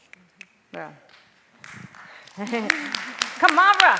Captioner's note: clapping